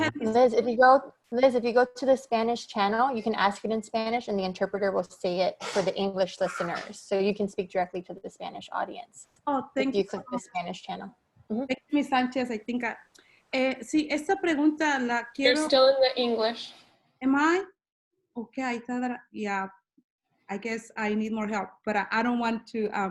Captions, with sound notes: If you go, Liz, if you go to the Spanish channel, you can ask it in Spanish and the interpreter will say it for the English listeners so you can speak directly to the Spanish audience. Oh, thank you click the Spanish channel. Sanchez. I think [in Spanish] Yes, this question I want You're still in the English. Am I? Okay, yeah, I guess I need more help, but I don't want to,